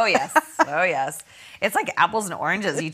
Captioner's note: both laughing; laughing